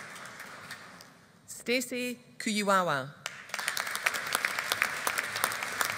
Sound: audience applauding

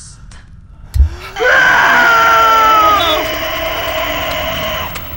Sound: loud Screaming

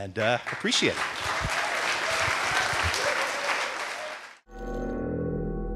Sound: audience applauding

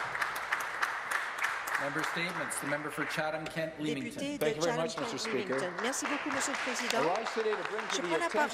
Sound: applause

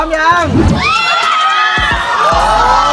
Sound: screaming

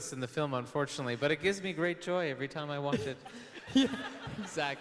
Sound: laughs; audience laughing

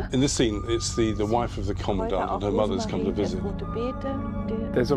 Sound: speaking german

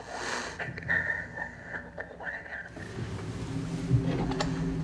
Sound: whispers; whispered

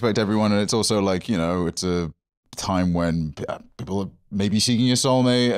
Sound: none

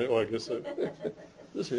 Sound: laughs

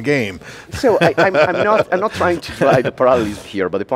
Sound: laughs

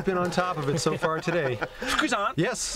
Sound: laughter

